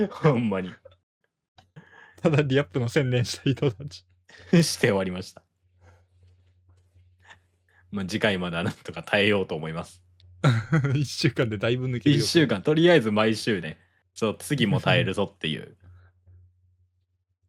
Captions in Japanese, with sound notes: ほんまに。 ただリアップの宣伝した人たち終わりました。ま、次回まだなんとか耐えようと思います。 [笑い]1 週間でだいぶ抜けるよ。1 週間とりあえず毎週ね。 そう、次も耐えるぞっていう身な目標が大事やから。お前これさ、え、結局お前これエグゼイドはどうなったん?これ